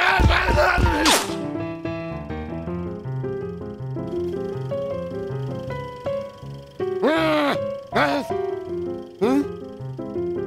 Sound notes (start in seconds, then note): 7.0 frustrated grumbles